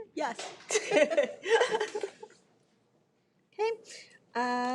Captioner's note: laugh